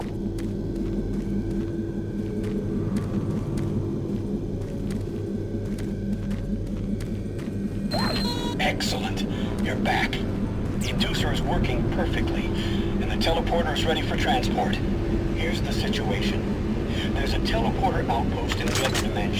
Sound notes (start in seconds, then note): 7.8 beeping